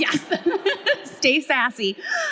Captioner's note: both laughing